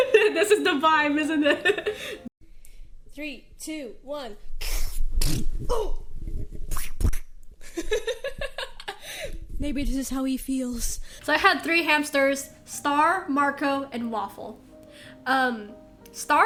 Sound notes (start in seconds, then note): 6.6 squelch* x2; 7.6 laughter